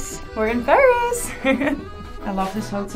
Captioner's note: giggles